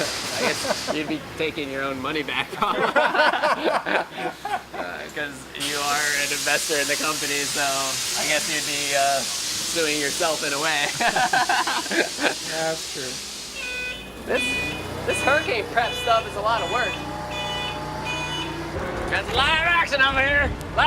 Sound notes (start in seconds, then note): 2.6 laughing; 11.0 laughing